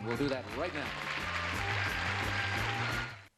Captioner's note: applause